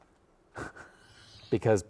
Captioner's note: chuckles